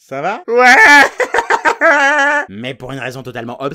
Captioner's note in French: voix ridicule